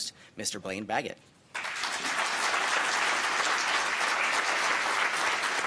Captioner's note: audience applauding